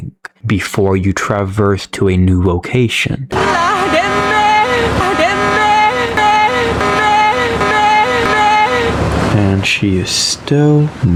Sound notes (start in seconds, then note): 3.3 Captain Otter Noises